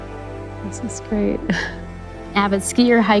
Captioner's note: chuckles